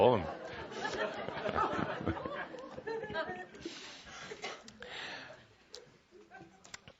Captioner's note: laughter; more laughter, Kuthumi chuckling